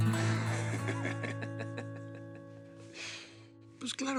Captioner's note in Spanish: Risas